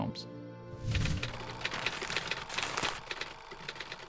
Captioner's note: film reel clicking